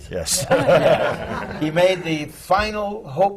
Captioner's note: laughter